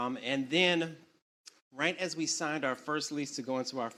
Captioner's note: none